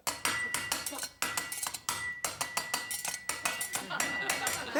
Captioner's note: clanging in a musical rhythm; audience laughing